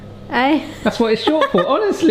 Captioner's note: laughs